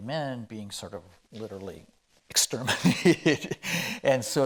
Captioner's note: chuckling